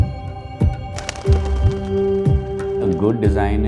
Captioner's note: birds flattering